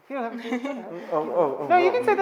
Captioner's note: all laughing